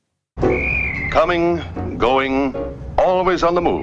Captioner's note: soundbite of archived recording